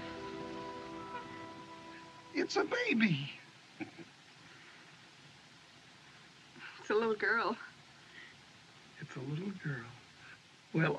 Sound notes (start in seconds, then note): 3.7 Curley Chuckles